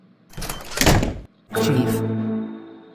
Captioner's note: door opens and slams shut